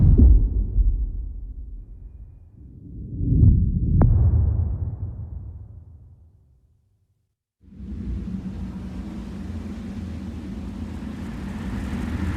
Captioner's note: dramatic sound